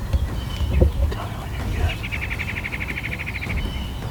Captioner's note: whispering